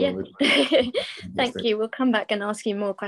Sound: laughing

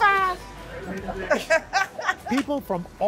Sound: laughter

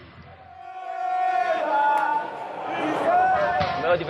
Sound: crowd

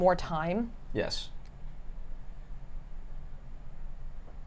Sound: fan whirs

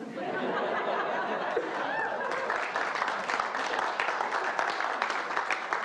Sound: audience laughs and applauds

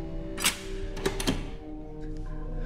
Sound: door unlocked / opened

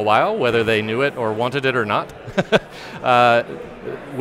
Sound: chuckles

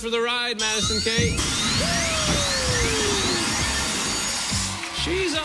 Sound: alarm sounding

